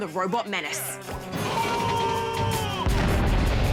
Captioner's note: roars